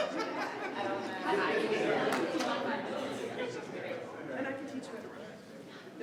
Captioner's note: attendees chattering continues